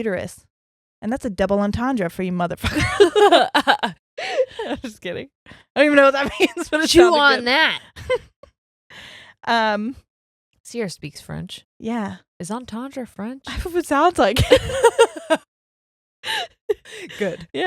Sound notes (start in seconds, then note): 2.6 both laughing; 7.8 laughs; 14.4 both laughing